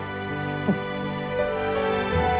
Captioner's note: chuckles